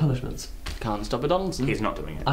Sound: clumping

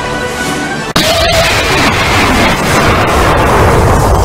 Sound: blast

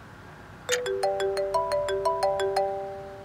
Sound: phone ringing

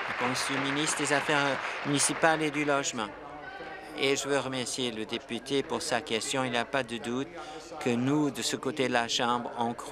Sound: applause

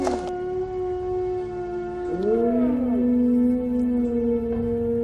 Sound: howling

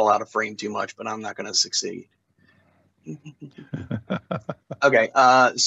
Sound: laughter

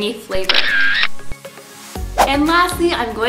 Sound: camera shutter

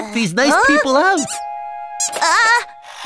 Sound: Melo squeaks

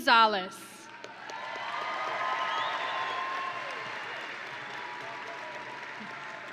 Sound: audience and graduates cheering

